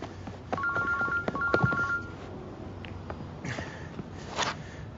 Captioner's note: ringing